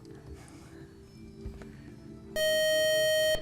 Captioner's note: buzzer